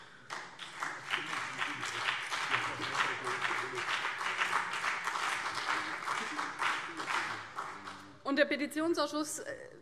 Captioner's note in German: Beifall CDU und BÜNDNIS 90/DIE GRÜNEN